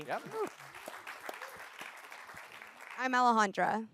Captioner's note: applause